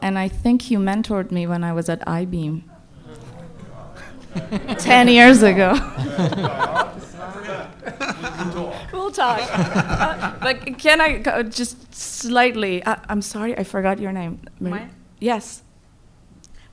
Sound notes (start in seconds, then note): 3.0 all exclaiming; 6.0 laughs